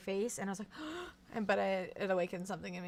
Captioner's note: gasps